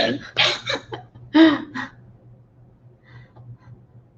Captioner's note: laughing